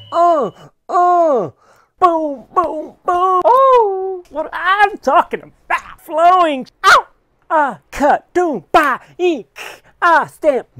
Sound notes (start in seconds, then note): 3.5 high Pitch Voice; 6.8 screaming